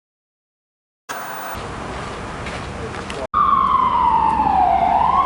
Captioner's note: white noise scratching